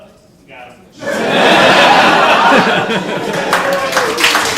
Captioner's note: audience laughs, applauds